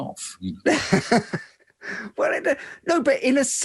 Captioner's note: laughs